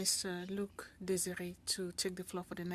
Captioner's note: speaking French